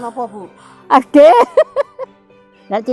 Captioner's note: laughs